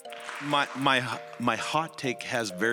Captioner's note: applause